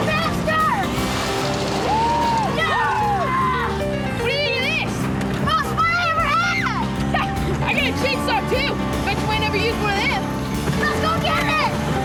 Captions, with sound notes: - Faster! (yelling and cheering) - What do ya think of this? - Most fun I ever had! - Ha, I gotta chain saw too. Bet you ain't never used one of them. - Let's go get it!